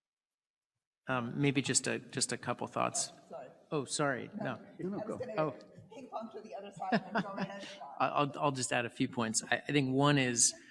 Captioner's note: speaks off mic